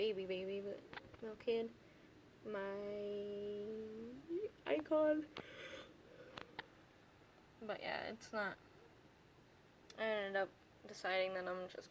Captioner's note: yawn